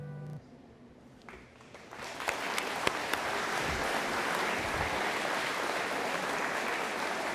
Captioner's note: audience applauding